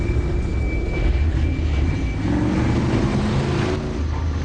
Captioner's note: car engine whirs